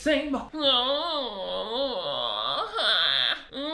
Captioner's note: groaning